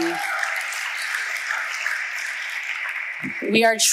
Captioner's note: audience applauding